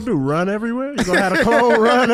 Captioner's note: HaHa laughs